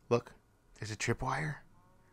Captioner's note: whispers